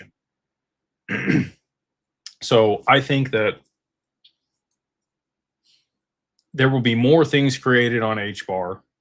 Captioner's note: clears throat and cough